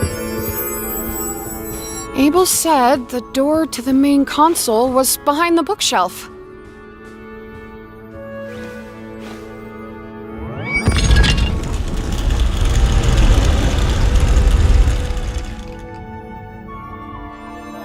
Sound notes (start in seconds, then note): 10.3 doors rumbling